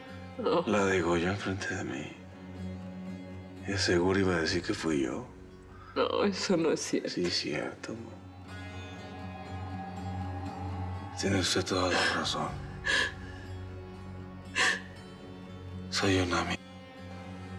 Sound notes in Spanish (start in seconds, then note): 11.6 sollozos